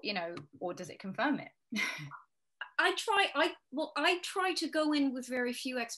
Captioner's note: chuckling